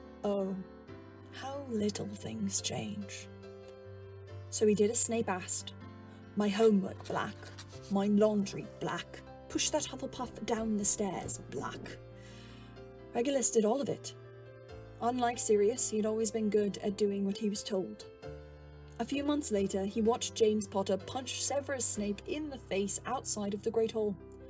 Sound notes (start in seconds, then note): 7.0 quill writing; 8.9 water running